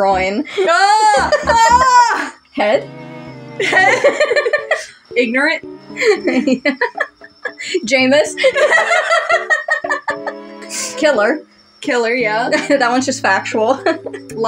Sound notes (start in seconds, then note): 0.4 laugh; 3.6 laugh; 5.9 laughing; 8.4 both Laugh; 12.5 chuckle; 12.5 laugh